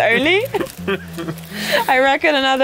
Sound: laughing

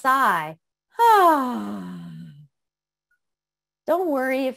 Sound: sighing

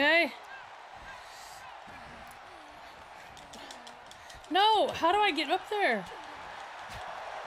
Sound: applause

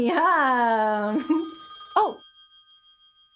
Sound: phone ringing

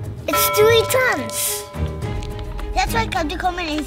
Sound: bell dinging

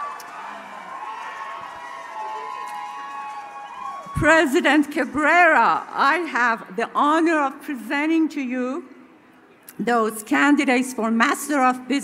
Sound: cheering

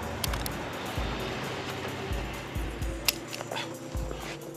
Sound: gun clicking

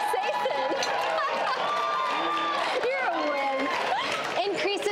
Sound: laughs; laughing

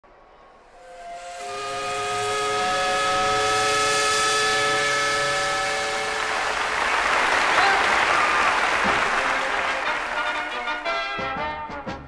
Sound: Georgia Tech whistle

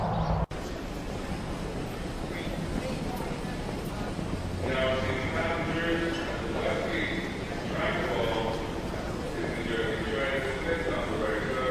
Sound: intercom voice in the background

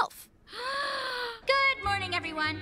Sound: gasp!

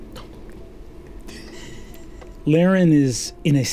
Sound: laughter

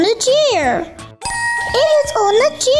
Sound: dinging

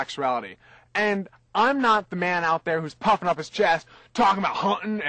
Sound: imitates burly voice

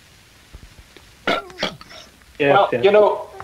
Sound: burps

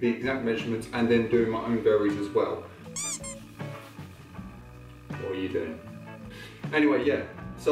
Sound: squeaky sound

